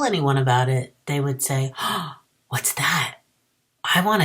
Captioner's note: gasps